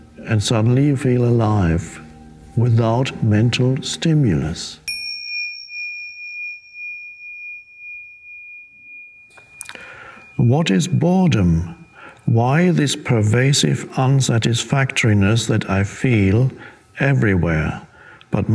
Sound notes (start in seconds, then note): 5.1 bell dinging